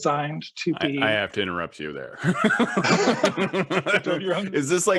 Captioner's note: laughs